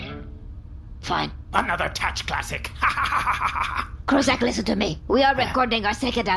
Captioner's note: laughs